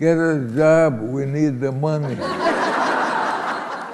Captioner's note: laughter